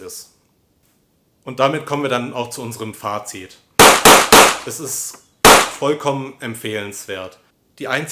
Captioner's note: gunfire